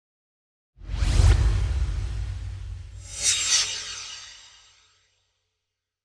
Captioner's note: swoosh